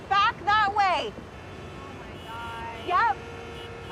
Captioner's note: horns honking